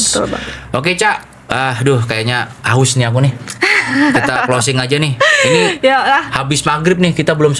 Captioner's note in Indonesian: tertawa